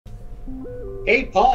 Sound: live chat sound

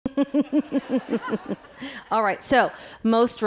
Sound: laughing

